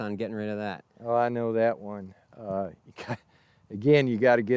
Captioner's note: chuckles